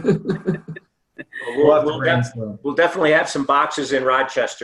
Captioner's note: laughter